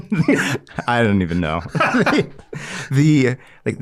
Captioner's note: laughing